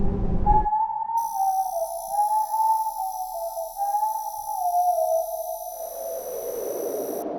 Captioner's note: ominous whistling